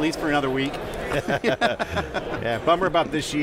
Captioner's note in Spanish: risas